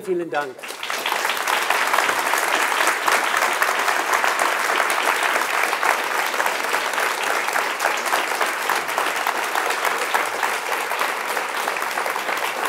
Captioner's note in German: Applaus